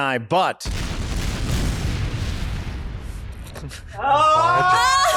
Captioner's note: explosion sound effect; cheers